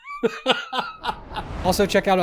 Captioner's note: cackles